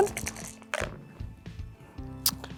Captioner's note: dice rattling; dice rolling